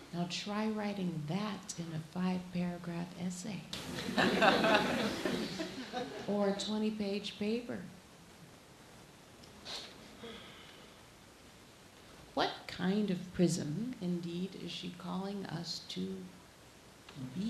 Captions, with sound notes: Now try writing that in a five paragraph essay. (laughing) Or a 20-page paper. What kind of prism, indeed, is she calling us to be?